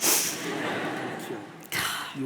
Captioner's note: audience laughs